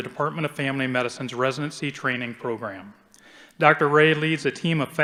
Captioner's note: none